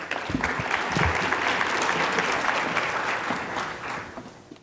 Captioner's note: applause